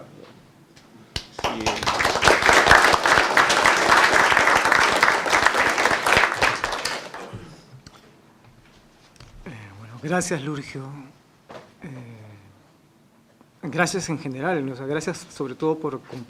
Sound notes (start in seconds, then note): 6.4 aplausos